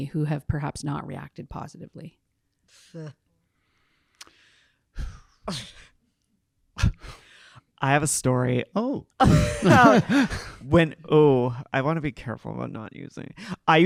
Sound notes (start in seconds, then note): 4.9 exhaling; 9.3 panel laughing